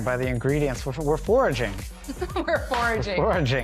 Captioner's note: laughs